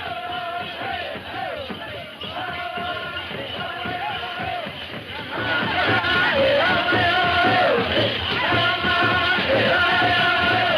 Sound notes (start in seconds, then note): 4.9 drum music; 4.9 men chanting